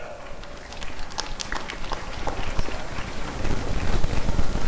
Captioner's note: applause and cheering